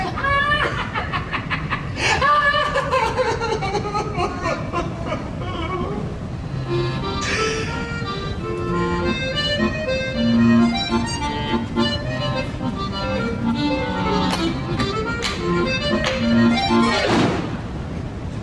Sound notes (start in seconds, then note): 2.2 laughter into crying; 6.3 accordion music